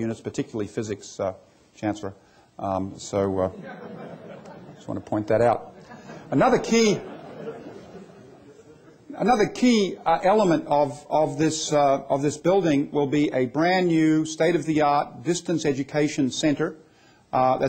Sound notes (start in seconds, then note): 7.1 laughter